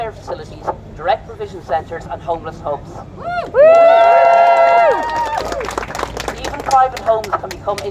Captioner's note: applause and cheers